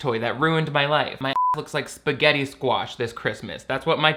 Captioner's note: beep